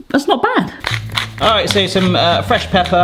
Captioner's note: pepper mill grinding